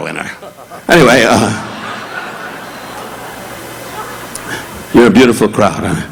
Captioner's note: audience laughing